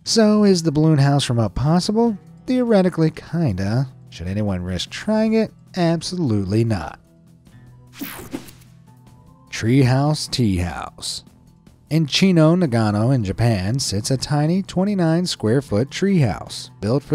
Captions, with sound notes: So is the balloon house from "Up" possible? Theoretically, kinda. Should anyone risk trying it? Absolutely not. (screen whooshing) Treehouse teahouse. In Chino, Nagano in Japan sits a tiny 29 square foot treehouse built